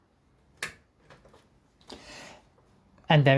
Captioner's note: sata data cable connected sound